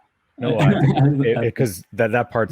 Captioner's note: laughs